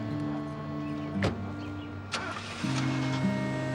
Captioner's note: engine starting; car door closing